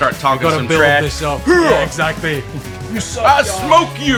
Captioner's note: manly grunts